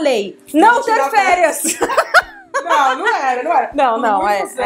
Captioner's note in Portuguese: risos